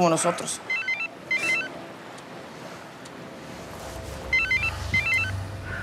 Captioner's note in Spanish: Suena el celular